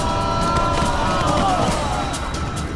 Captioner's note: screams